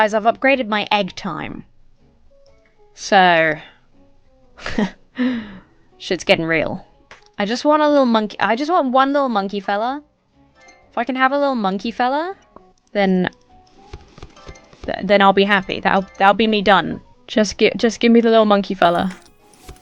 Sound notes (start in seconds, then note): 4.6 laughs self-confidently